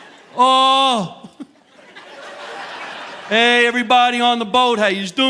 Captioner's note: chuckles